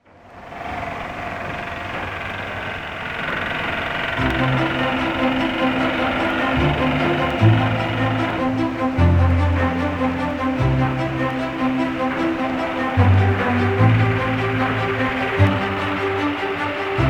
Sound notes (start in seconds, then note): 0.6 construction sounds; 4.1 inspirational music